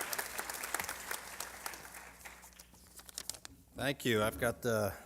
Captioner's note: applause